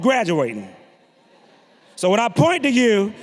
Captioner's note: audience laughing